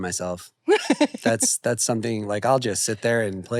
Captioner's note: laughs